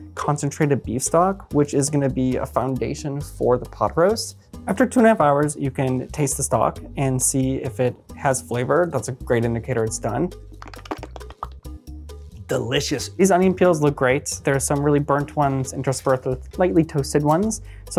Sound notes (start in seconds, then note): 10.6 smacks tongue